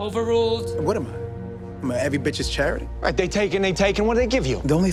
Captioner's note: none